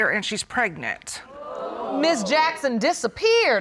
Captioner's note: audience exclaims